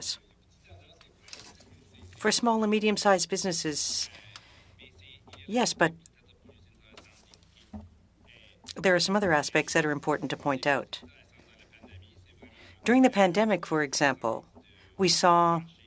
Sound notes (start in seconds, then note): 8.7 speaking French